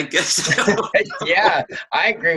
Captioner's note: laughing